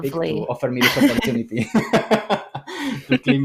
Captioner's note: laughter